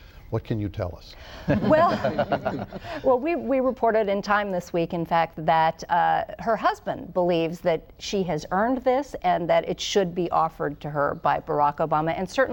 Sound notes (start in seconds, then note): 1.4 laughter